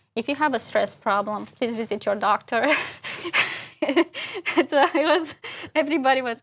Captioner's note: laugh